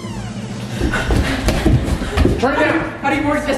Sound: door creaks closed; breathing heavily

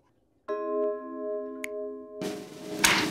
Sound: snapping

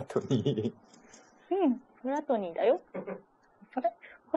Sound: laughs

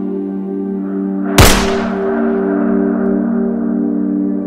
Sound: gun shot

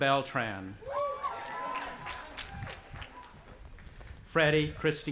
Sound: audience applauding and cheering

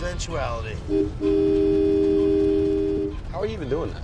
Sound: honking

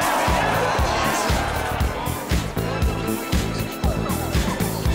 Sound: cheers

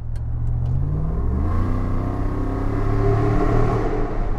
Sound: rev

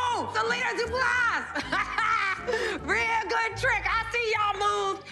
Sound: laughs

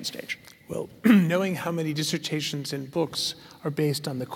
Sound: cough

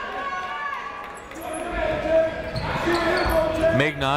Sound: shouting

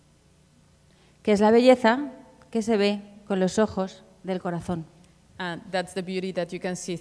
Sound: speaking Spanish

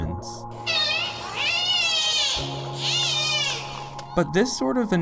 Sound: dolphin whistles and clicks

